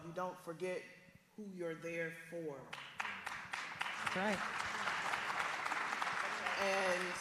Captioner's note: applause